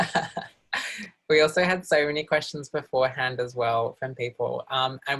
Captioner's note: laughs